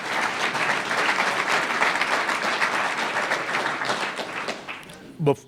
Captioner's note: applause